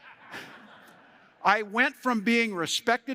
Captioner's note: laughter